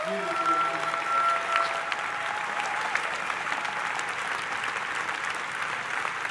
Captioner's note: attendee cheering; audience applauding